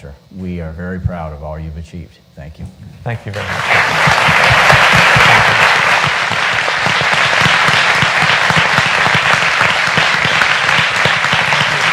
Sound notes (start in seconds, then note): 4.1 applause